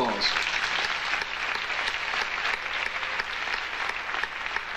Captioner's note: audience applauding